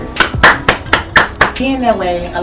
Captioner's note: applaud